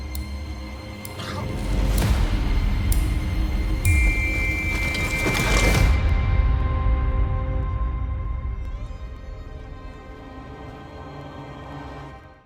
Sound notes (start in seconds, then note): 1.0 vomits; 2.8 clock continues ticking; 3.8 whistle blows